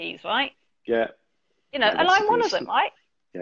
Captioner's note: chuckles